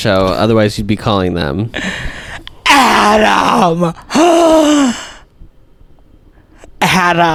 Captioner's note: gasp